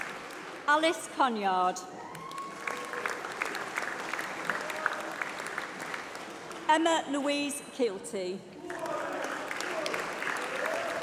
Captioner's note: applause